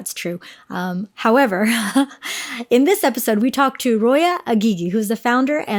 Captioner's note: chuckles